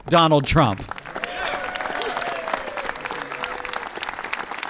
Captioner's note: applause